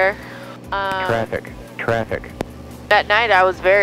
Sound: electronic Voice

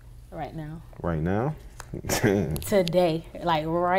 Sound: chuckles

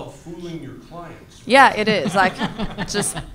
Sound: panelists laughs

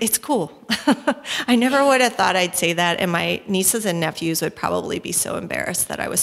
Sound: chuckle

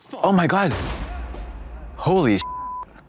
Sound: gun fires

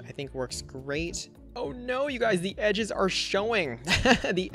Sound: laughs

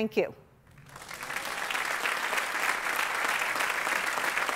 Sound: applause

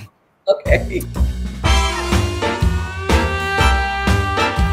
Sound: chuckling

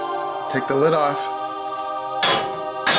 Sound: clanking

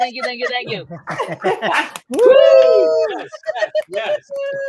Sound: cheering

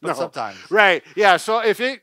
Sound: laughs

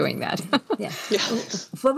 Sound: laughs

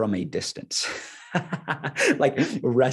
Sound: laughing

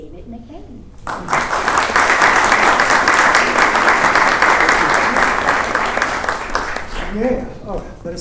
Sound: applause

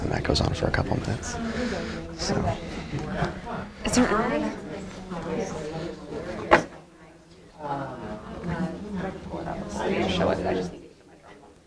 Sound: whispering/talking

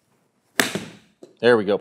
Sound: golf ball cracks

